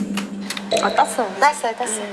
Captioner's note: pops the bottle cap open